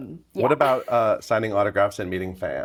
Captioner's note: chuckling